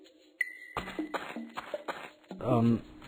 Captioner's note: footsteps